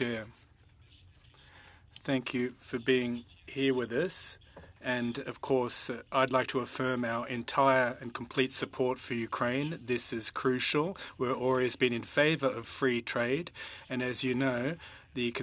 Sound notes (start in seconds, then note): 2.2 speaking French